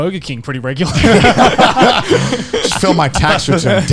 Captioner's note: laughing